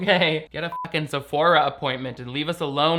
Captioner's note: beep